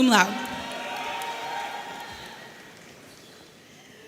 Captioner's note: audience cheering